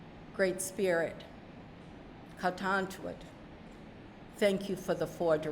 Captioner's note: speaking narragansett